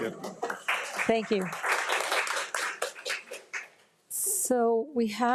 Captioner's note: audience claps